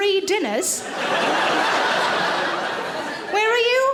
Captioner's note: audience laughing